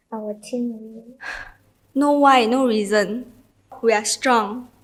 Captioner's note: sigh